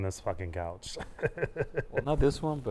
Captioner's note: laugh